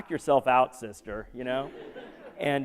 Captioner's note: laughter